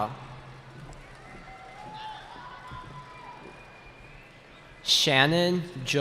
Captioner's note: cheering